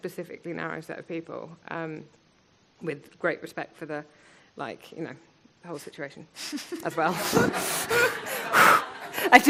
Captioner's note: laughs